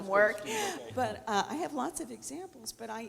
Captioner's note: laughing